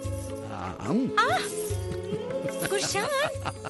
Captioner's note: groaning